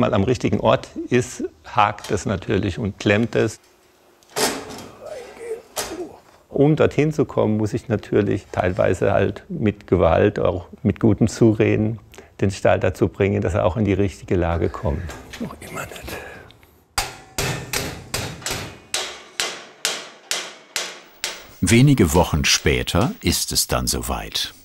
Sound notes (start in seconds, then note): 4.3 creaking; 4.7 groans; 14.6 groans; 16.9 metal hammering